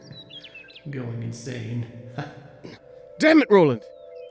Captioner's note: chuckles